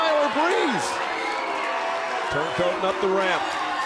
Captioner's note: crowd cheering